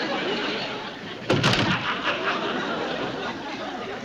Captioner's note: thud